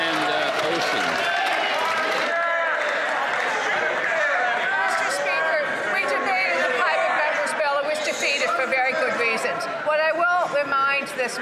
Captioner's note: some Applause